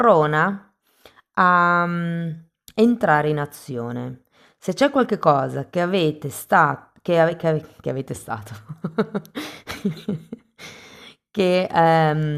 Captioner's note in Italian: risate